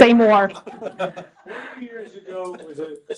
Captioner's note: laughter